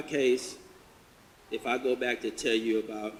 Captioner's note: none